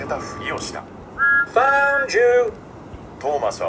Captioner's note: peeps